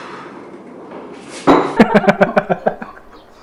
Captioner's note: laughing